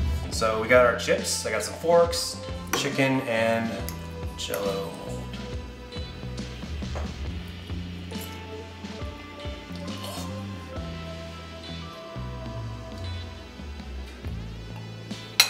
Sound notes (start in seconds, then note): 9.8 gags